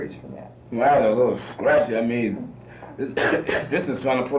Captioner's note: coughs